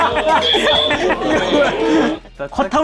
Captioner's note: scrub scrub